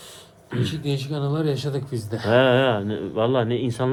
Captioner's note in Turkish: boğazını temizler